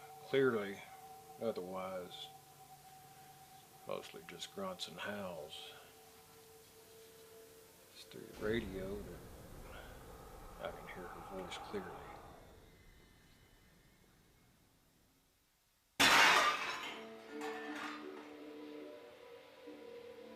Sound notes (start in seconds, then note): 16.0 objects clattering; 18.0 soft tense music